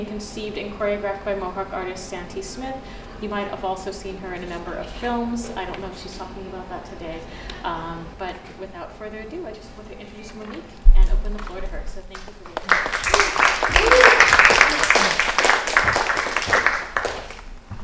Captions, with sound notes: conceived and choreographed by Mohawk artist Santee Smith. You might have also seen her in a number of films. I don't know if she's talking about that today. But without further ado, I just want to introduce Monique and open the floor to her. So thank you for waiting. [APPLAUSE]